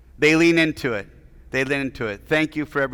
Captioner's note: none